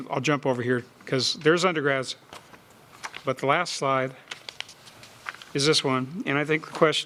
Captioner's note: sound of pages turning